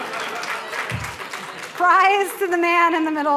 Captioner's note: applause